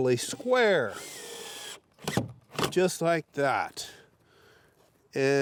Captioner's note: drill whirring